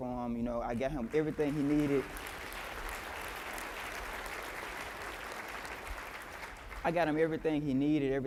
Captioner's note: applause